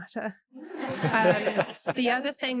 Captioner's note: audience laughing